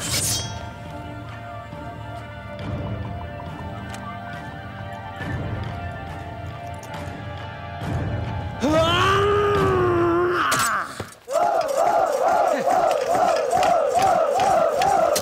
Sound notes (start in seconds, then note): 0.0 sword swishing; 10.4 sword thuds; 11.2 soldiers chanting